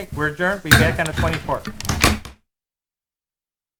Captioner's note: gavel thudding